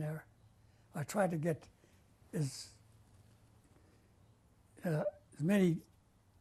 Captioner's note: pauses for 3 seconds